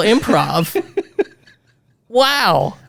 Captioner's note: laughing